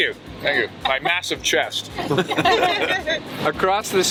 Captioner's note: chuckles